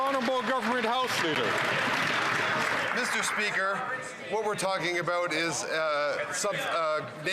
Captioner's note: some Applause